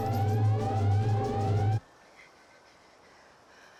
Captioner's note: birds chirping